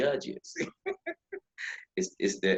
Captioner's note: laughing